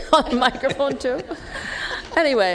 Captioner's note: laughter